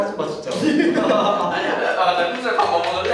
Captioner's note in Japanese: アハハ